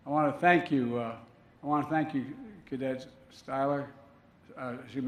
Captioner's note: none